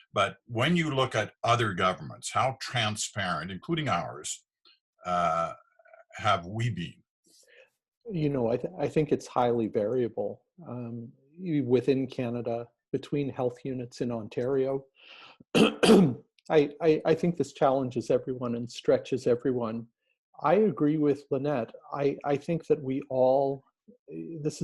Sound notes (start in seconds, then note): 15.5 coughing